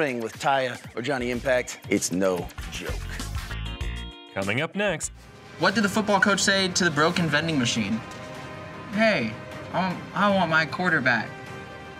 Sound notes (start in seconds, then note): 4.5 voiceover